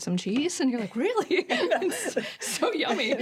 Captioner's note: both laugh